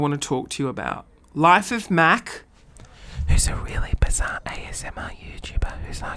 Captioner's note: whispering